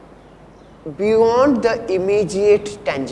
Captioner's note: deadpan